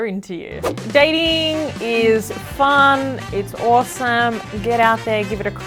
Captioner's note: air whooshes